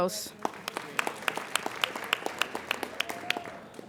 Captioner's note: applauding